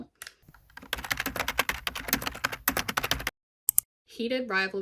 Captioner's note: keyboard typing noises